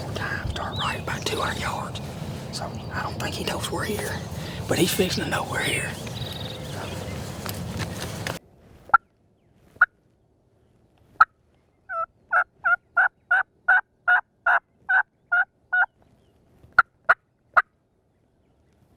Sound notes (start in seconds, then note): 9.3 turkey calling